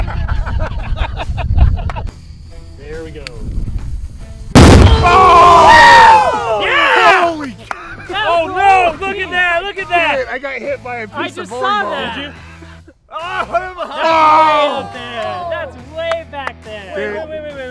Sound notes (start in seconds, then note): 0.2 laughing; 4.5 explosion; 7.0 yelling; 13.8 yelling